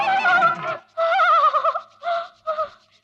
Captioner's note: shivering